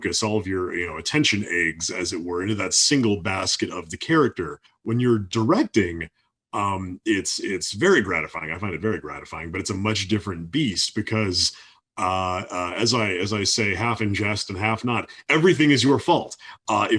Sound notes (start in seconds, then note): none